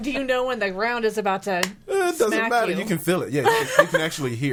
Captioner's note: claps